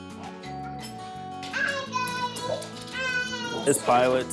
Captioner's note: doorbell rings